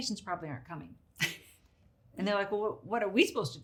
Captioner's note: chuckles